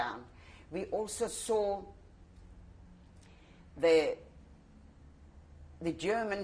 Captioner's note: pauses for 3 seconds